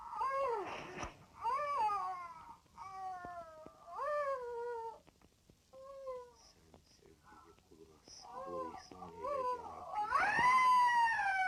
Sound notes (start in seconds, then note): 3.7 woman sobbing; 8.1 woman screaming